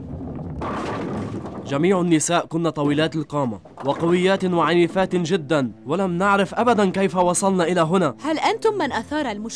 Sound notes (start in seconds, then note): 0.0 bowling ball hits pins